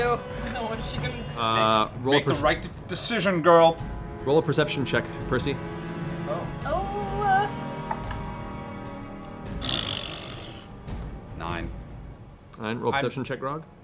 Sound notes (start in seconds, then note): 9.6 blows raspberry